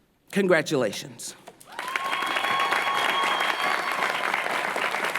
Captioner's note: applause